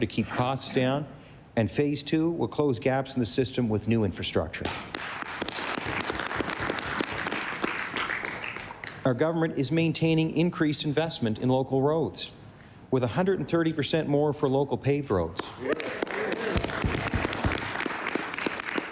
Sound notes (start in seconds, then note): 8.5 applause